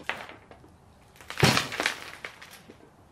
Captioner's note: thud